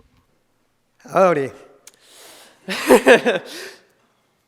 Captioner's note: laughs